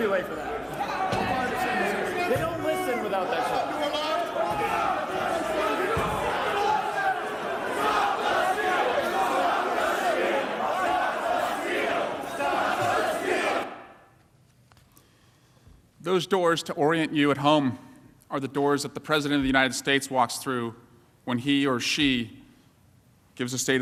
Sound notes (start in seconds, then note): 1.0 shouting